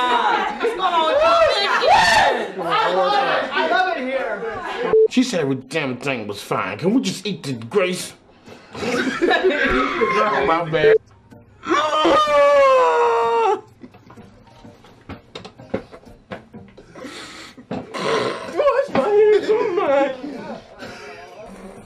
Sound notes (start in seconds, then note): 0.1 laughing; 2.1 crowd Yelling; 8.7 laughing; 20.0 laughing